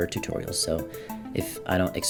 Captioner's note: le gasp